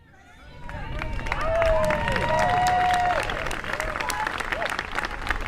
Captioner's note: audience clapping and cheering